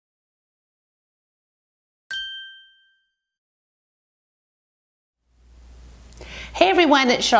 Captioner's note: ding